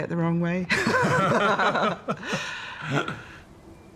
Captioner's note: both laugh